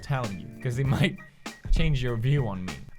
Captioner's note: huff